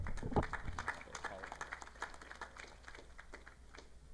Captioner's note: audience clapping